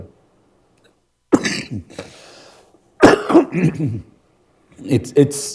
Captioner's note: Dr. Tedros coughing